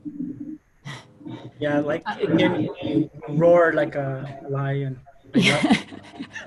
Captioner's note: audio feedback; laughter